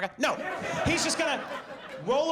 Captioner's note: audience laughs